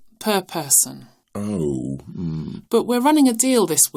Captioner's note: sounding deflated